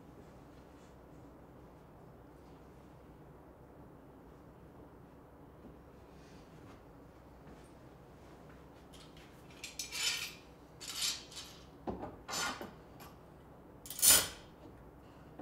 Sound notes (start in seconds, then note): 10.8 clamps clacking